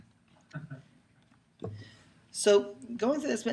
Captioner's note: chuckling